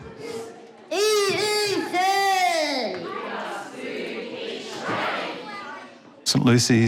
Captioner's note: shouts into microphone